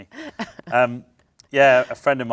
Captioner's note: laughs